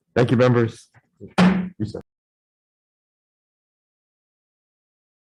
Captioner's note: gavel slamming